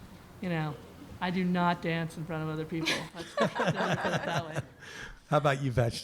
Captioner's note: laughter